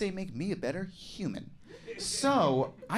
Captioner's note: scattered giggles